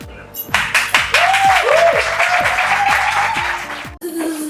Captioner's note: applause